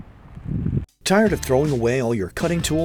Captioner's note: voiceover